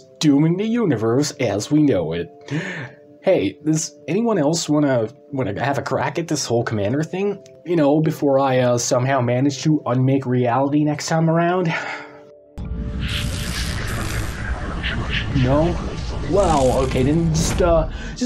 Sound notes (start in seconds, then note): 2.4 sigh; 2.4 inhale; 11.6 sighs